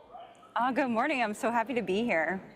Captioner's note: attendees chattering